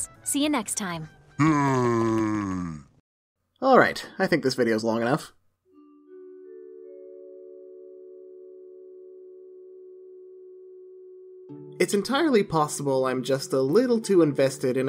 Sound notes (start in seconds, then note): 1.3 unsettlingly deep voice; 5.7 relaxing music